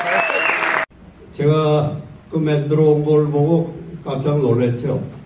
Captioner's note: in foreign language